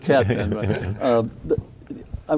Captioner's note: laughing